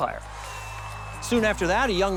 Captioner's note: crowd cheering